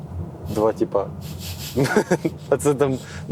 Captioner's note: laugh